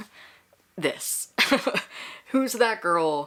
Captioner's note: laughs